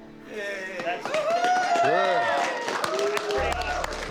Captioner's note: cheering